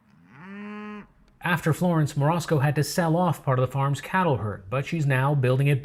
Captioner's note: cows mooing